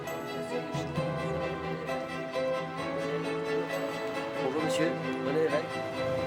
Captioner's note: people chatter indistinctly